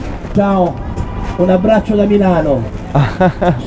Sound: speaks in Italian; laughs

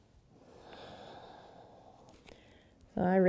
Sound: breathing

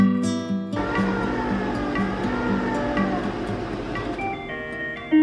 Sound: machine whirs

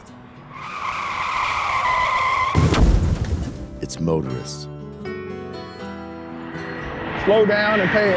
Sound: brakes squealing, car crash

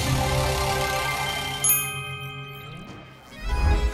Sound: dinging

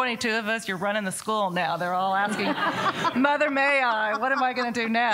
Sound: laughter

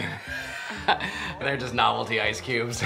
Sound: laughs

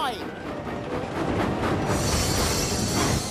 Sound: brakes squeal

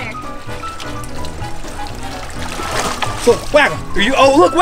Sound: water splashing

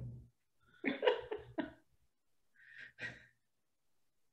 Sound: laughing

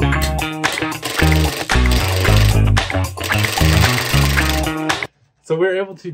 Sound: upbeat music continues; drill whirring

